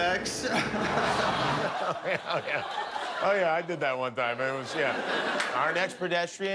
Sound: laughter

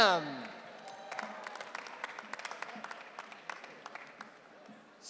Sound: audience cheering

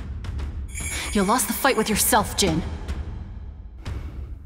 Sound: Jun exhales

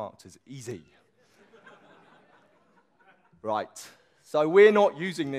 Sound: audience laughs

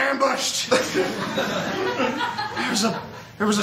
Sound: laughter

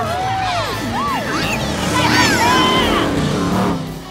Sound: cheering

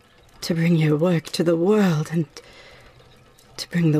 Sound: none

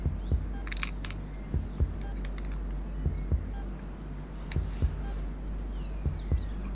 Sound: monitor beeping. heartbeat

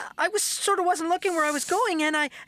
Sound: none

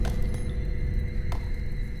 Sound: bricks moving

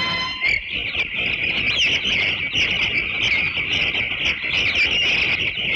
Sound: birds - Chirping

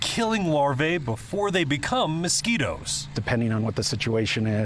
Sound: 4 wheeler engine

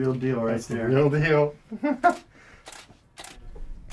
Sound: laugh

